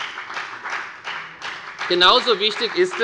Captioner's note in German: Beifall bei der FDP und bei Abgeordneten der SPD